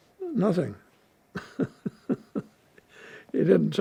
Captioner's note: laughing